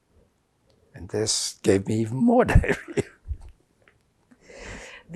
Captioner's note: laughing